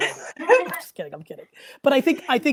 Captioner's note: laughs